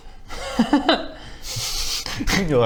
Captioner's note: chuckle